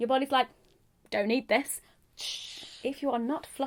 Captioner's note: whooshing noise